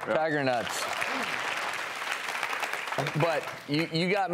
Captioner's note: audience clapping